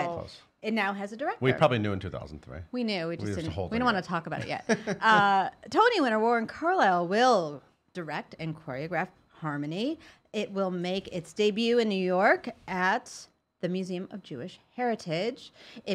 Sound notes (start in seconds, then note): 4.4 laughing